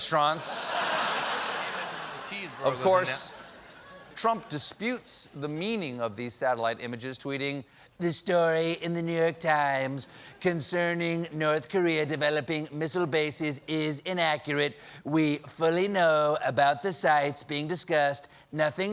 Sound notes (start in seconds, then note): 3.2 laughter